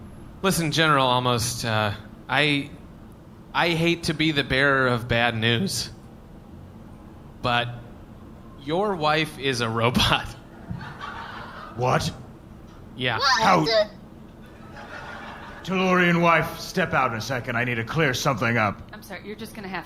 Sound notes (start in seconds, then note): 15.9 voice wavering robotically